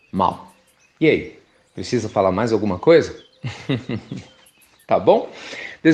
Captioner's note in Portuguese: Risos